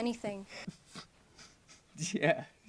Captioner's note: man chuckles